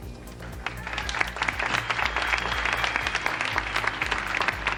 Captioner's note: audience applauding